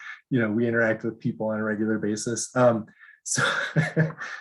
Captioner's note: laughs